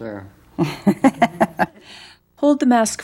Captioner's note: laugh